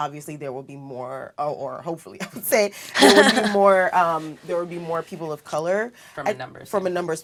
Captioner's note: laugh